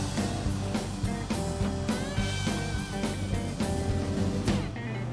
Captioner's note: engine revving; wind whistling